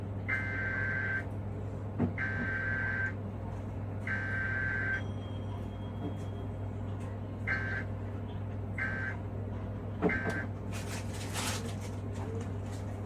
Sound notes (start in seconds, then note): 0.3 EAS Header Tones; 7.5 EAS End Tones